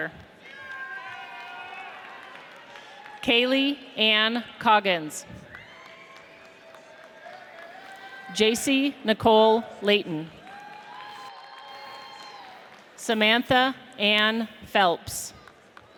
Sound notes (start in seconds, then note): 0.4 audience cheers; 5.3 audience applauds; 10.4 audience cheers